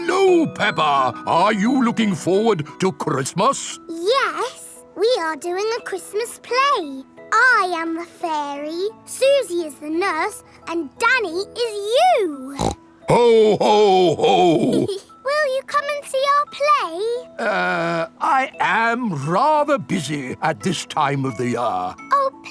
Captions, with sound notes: Hello, Peppa! Are you looking forward to Christmas? Yes, we are doing a Christmas play! I am the fairy, Suzy is the nurse, and Danny is you! (SNORTS) -Ho! Ho! Ho! -(GIGGLES) Will you come and see our play? Uh, I am rather busy at this time of the year!